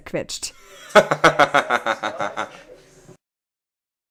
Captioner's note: laughs